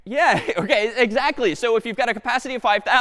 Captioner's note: laughs